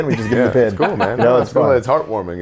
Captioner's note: laughs